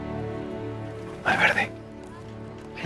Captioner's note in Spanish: Susurra